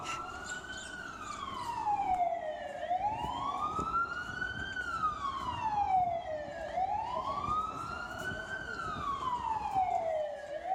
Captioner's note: ambulance siren